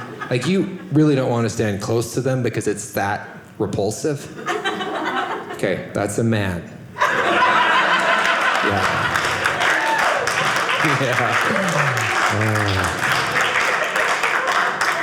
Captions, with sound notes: Like, you really don't want to stand close to them because it's that repulsive. OK that's a man. (audience laughing) Yeah. (audience laughing) Yeah. (audience applauding)